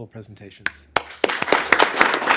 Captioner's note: applause